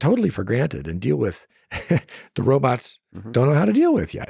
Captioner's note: laughs